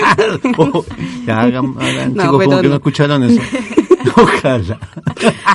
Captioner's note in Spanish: risas